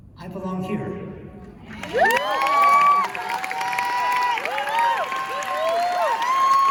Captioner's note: cheers and applause